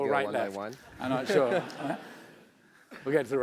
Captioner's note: laugh